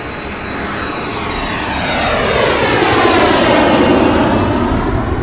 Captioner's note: jet plane engine whistling